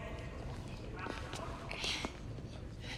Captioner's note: indistinct chatter